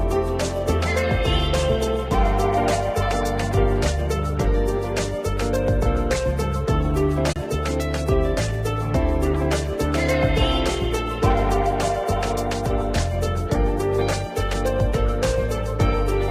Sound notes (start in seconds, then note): none